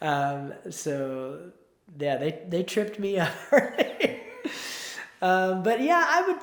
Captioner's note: laughs